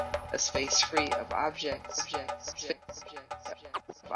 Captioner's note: echoes